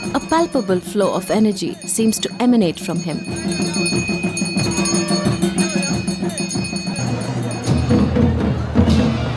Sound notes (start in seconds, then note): 3.5 bells chimes; 3.5 soft drumming intensifies; 7.0 bells chimes; 7.0 soft drumming; 7.0 trumphets blowing